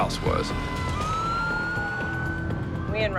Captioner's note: intense music playing; sirens blasting